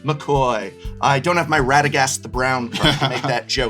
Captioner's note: laughs